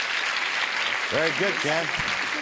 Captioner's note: applause